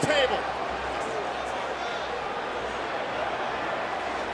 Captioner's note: crowd murmuring